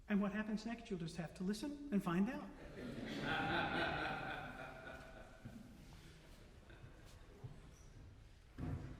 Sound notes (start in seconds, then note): 2.6 audience Laughter